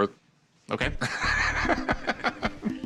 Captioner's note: laughter